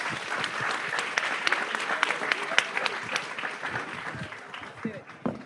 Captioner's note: audience applauds